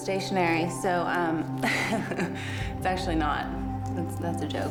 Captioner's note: chuckles